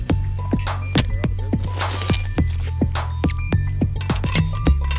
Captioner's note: machinery thudding